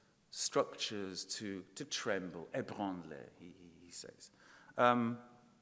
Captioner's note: speaking in foreign language